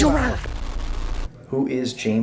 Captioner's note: static